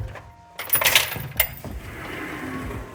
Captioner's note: keys jangling